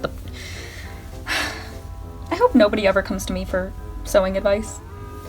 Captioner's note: sighs in disappointment with self